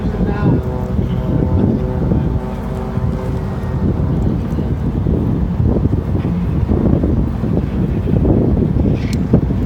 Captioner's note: wind buffeting